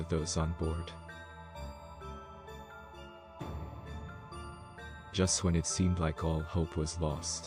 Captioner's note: voice-over